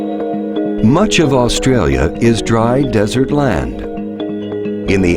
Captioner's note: enchanting music; voiceover